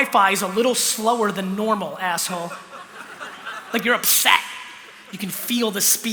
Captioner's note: laughter